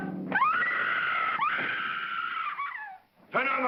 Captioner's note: Lillian screams